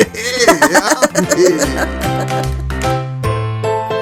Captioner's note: all laughing